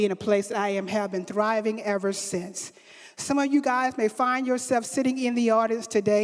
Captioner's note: none